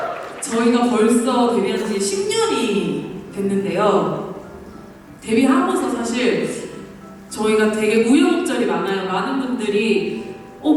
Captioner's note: cheers